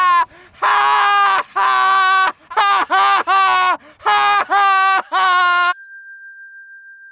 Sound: Saul laughing crazily; general stops laughing; Saul laughing crazily; bell dinging

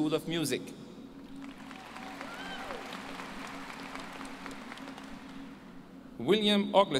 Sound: applause

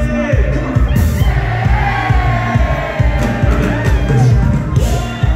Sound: crowd

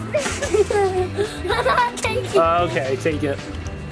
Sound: all laugh

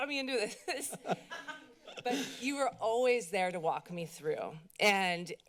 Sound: laughter

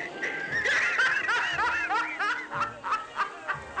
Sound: cackling

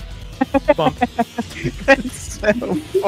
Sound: laughs

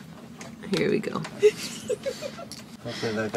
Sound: laughs

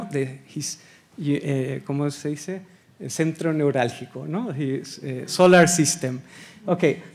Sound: speaking Spanish

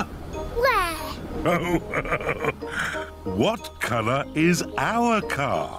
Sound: laughs

